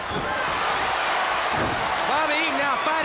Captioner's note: crowd cheering